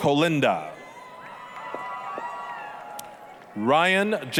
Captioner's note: applause, cheering